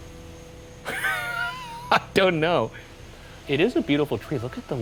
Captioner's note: laughs